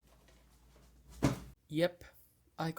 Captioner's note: box slam